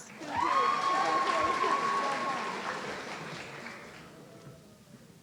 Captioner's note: audience cheering